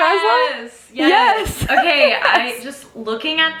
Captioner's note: laughs